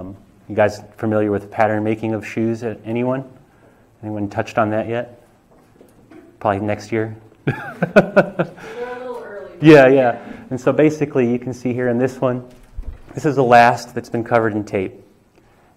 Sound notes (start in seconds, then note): 7.4 laughter